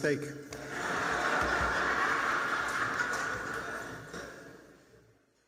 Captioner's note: attendees laugh